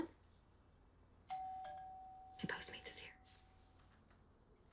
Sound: doorbell rings

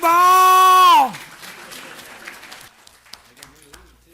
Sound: applause

